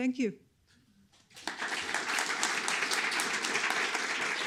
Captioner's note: applause